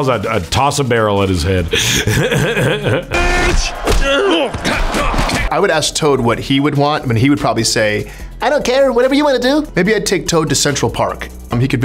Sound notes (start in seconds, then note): 1.7 laughs; 7.9 toad voice